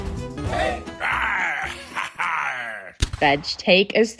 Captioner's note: pirate music; cannon firing